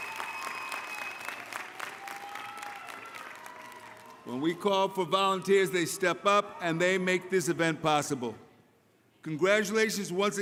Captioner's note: applause